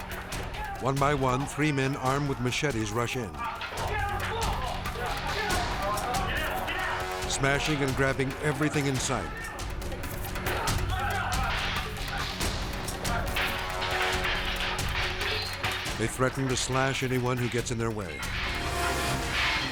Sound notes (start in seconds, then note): 10.0 robbers yelling; 12.8 machetes smashing